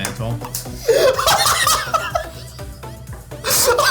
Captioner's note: laughing